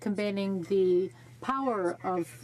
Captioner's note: speaking French